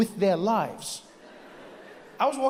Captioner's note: audience laughs